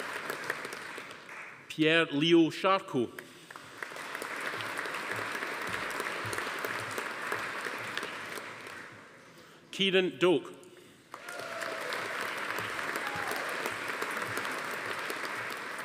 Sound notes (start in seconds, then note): 3.4 audience applauding; 11.1 audience applauding; 11.2 attendee cheering